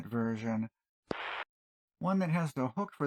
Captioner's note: static